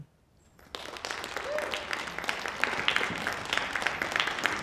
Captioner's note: applause